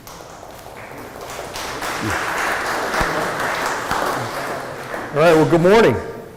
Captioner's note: applause